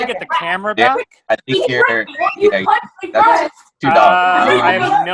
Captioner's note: chattering continues